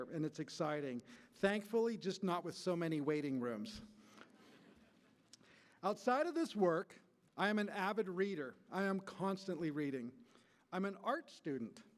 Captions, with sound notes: and it's exciting -- thankfully, just not with so many waiting rooms. [laughter] Outside of this work, I am an avid reader. I am constantly reading. I'm an art student.